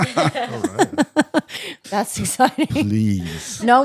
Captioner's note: laughing